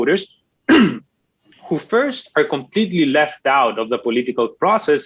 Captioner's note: clears throat